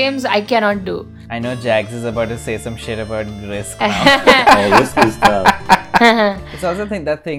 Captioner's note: laughter